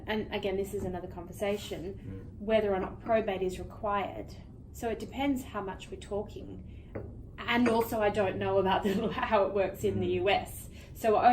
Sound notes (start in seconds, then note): 8.8 chuckles